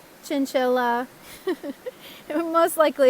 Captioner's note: laugh